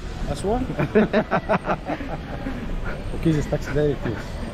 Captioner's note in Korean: 아저씨도 벙쪄서 웃는다